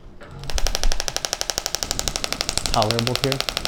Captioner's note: applicator clicks rapidly